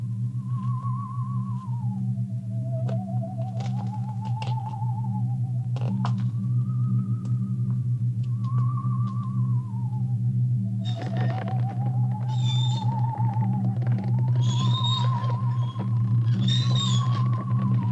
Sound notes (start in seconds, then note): 10.8 cart wheels creaking; 14.1 eerie music continues